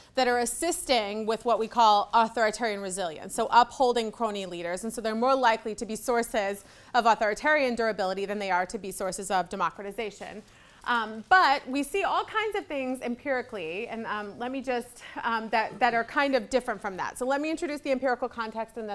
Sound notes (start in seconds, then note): none